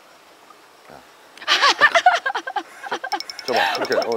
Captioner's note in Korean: 폭소